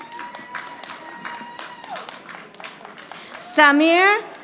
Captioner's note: audience applauding